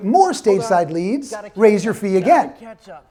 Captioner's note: mumbling frantically